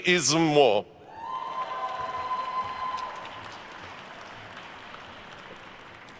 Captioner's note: attendees cheering and applauding